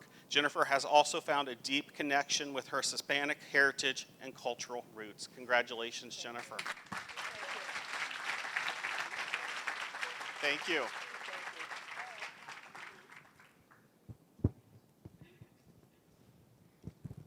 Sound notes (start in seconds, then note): 6.4 applause